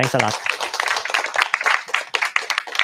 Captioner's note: applause